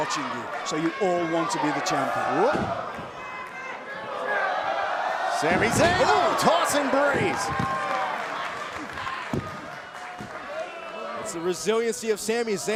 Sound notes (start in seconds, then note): 6.0 fans chanting